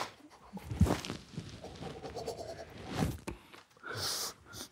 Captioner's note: group quietly laughing